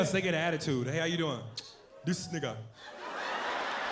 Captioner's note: clicks tongue